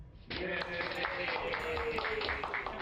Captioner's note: cheering